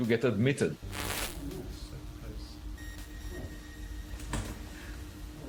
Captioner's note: static crackling